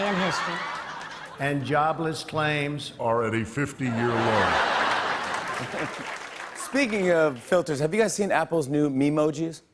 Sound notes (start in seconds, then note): 0.0 high-pitched voice; 0.0 laughter; 2.2 deep voice; 3.8 laughter